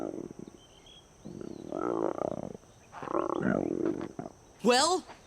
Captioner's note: croaking